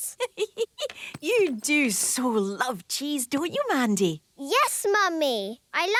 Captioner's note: giggling